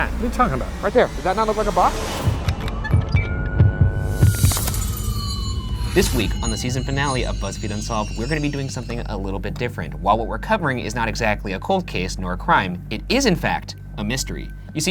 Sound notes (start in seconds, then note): 2.2 siren blaring; 2.3 heart beating